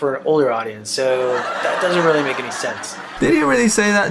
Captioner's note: laugh track